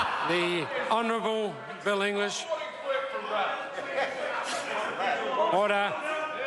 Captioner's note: members laugh